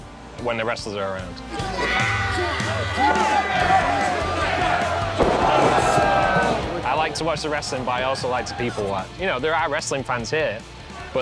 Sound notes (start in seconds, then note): 1.5 crowd cheering; 1.9 yelling